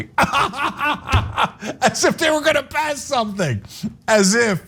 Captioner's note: laugh